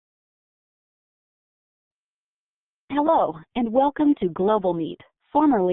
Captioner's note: ladies recorded voice